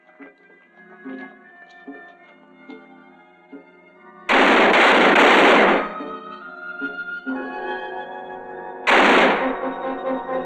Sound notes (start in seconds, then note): 4.3 gun firing; 6.3 tense music; 8.8 gun firing